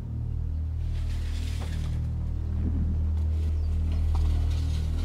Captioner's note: dramatic music; metal scraping